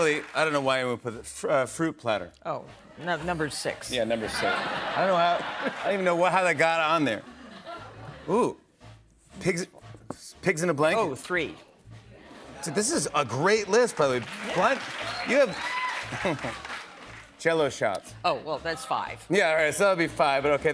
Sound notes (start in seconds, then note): 4.2 laughter; 16.1 chuckles